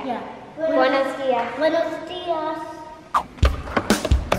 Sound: speaking in foreign language; upbeat music

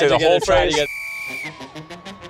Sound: whistle blows; band music plays

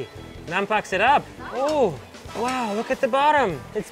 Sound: speaks foreign language

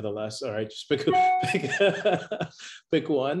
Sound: laughter

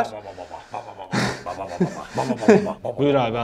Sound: laughs

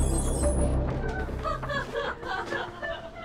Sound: laughter

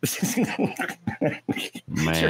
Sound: laughing

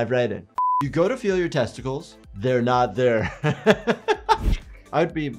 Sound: laughing

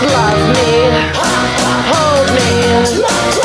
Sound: hah hah

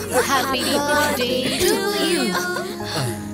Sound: clears throat

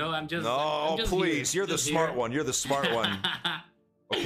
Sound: laughs

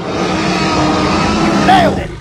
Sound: T-Rex Roars

